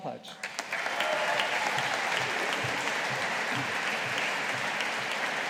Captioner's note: audience applauding